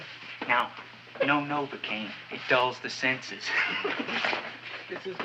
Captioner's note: laughs